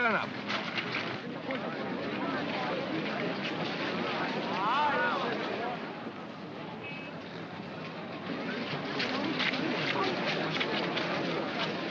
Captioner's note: crowd murmuring